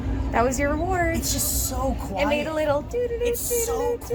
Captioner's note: humming